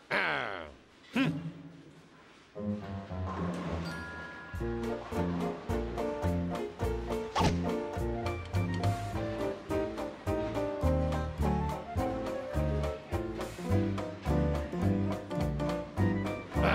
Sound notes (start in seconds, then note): 0.5 growls